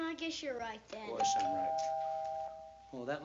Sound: doorbell rings

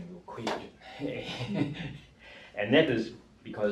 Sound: group laughing

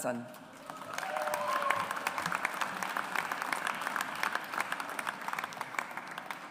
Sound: audience applauds

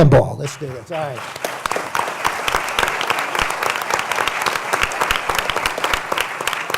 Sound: applause

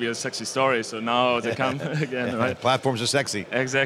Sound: laughs

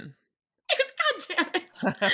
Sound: laughs; both laughing

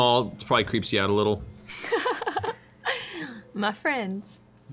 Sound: giggles

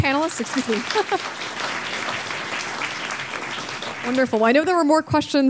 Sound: audience applauding

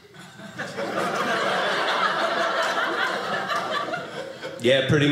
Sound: audience laughing

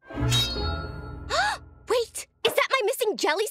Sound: gasping

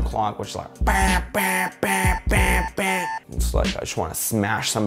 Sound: obnoxious beeping sound

